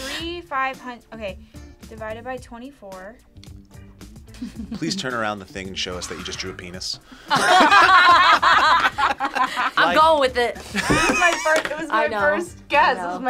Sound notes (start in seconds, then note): 7.1 group laughs; 10.6 laughs